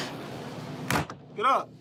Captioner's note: thud